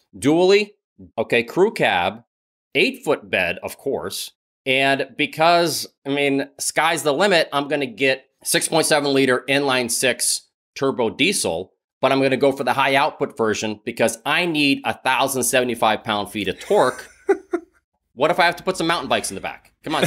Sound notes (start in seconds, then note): 16.5 laughs